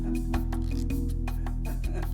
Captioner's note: laughing